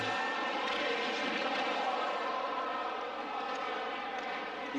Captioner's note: hockey rink ambience